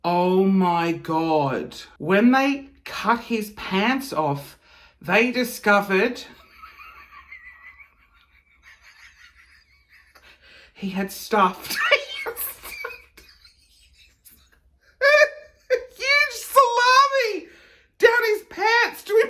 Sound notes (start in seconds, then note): 6.4 chuckling; 14.8 laughing